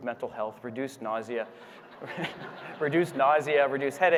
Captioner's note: audience laughing